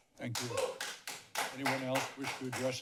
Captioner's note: applause